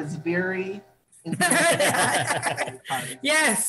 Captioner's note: laughing